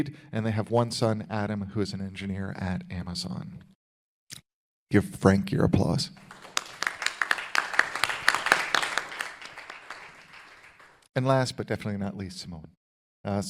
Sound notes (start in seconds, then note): 6.2 audience applauding